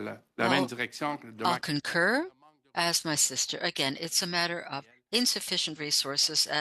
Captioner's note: speaking French